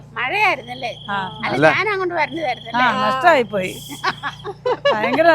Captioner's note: sarcastically